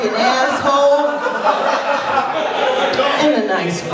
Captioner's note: laughter